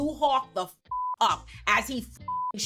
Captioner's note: beep; beep